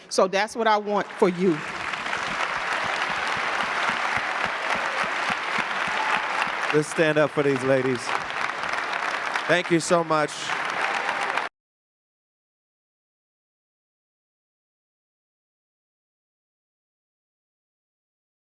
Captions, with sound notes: So that's what I want for you. (audience clapping) - Please stand up for these ladies. Thank you so much. (audience clapping)